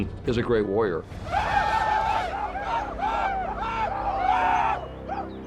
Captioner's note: shouting